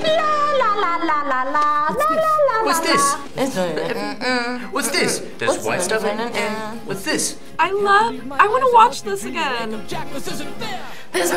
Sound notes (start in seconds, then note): 3.3 hums